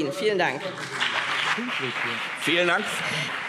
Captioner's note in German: Beifall BÜNDNIS 90/DIE GRÜNEN